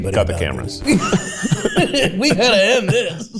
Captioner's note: both laughing